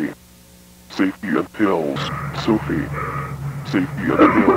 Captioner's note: Brian pants; Brian coughs